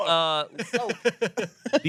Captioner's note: everyone laughs